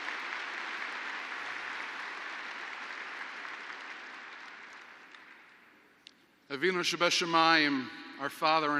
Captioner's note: applause; Speaks in Hebrew